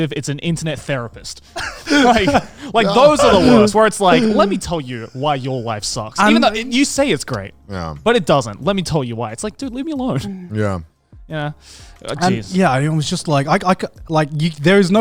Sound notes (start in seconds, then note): 1.5 laughing